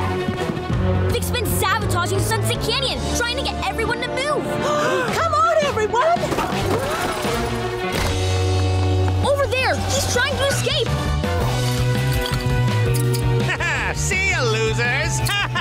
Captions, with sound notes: Vic's been sabotaging Sunset Canyon trying to get everyone to move. [gasping] Come on, everyone. Over there, he's trying to escape. Ha-ha! See ya, losers. [laughing]